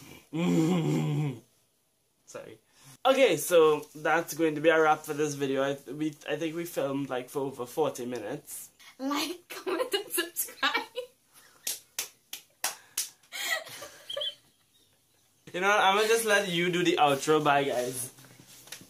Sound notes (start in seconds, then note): 0.0 evil laugh; 13.4 laughs for absolutely no reason whatsoever